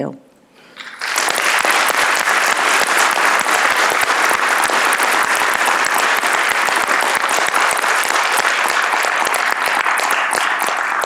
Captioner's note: applause